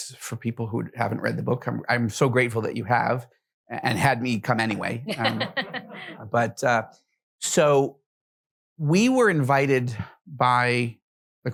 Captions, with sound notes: for people who haven't read the book. I'm so grateful that you have and had me come anyway. (laughs) But so we were invited by the crown prince of Saudi Arabia,